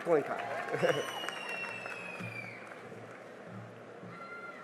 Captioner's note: cheering and applause